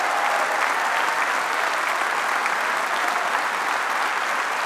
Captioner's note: applause